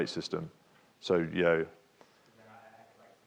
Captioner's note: speaks faintly